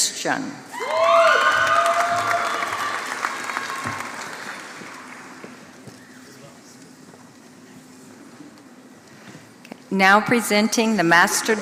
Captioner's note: applause